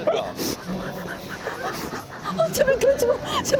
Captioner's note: deep breaths in and out